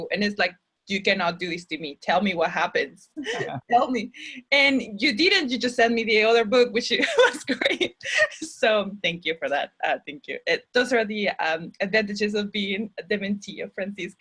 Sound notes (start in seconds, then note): 3.2 chuckles; 8.1 chuckles